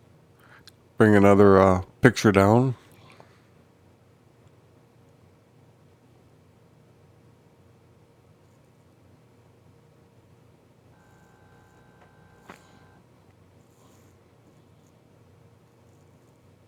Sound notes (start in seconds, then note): 3.8 silence